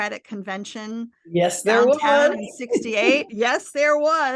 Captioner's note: chuckles